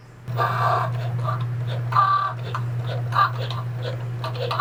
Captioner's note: machine whirring